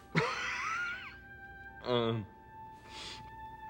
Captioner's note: wheezing cough